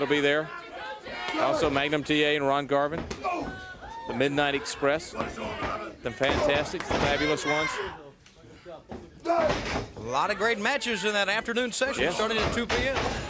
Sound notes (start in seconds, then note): 0.0 crowd chatter; 6.8 crowd chatter; 9.9 crowd chatter